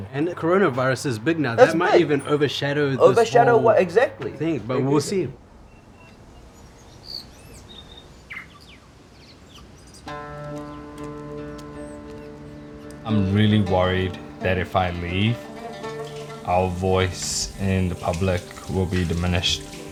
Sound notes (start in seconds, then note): 6.9 birds chirping; 10.3 sombre music